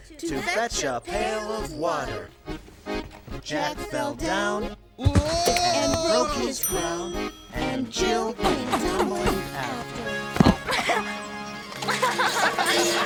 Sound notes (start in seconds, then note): 5.4 yelling; 11.7 laughing